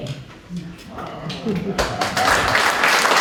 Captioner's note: applause